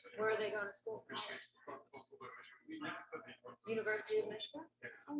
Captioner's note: people chattering indistinctly